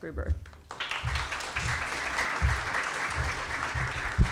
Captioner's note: audience applauds